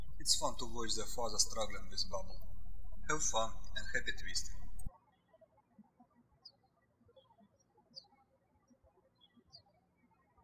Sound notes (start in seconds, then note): 5.2 bird chirping